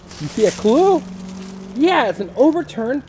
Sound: voiceover

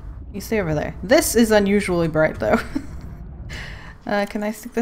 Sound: laughs

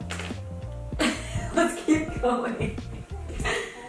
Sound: laughs

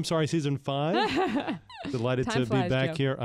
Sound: laughs

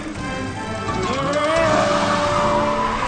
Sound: grunt

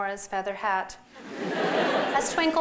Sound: laughter

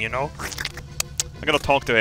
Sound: slurping

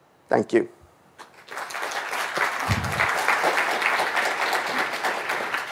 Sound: audience applauding

